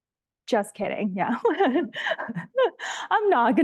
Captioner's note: laughs